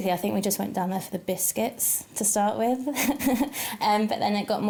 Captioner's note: chuckles